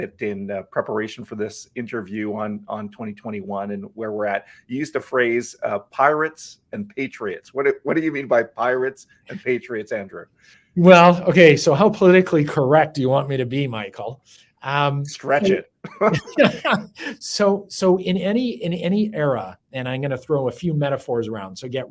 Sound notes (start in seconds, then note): 15.8 laugh